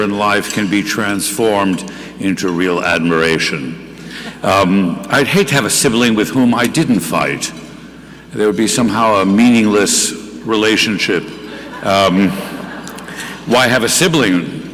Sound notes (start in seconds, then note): 11.4 audience laughing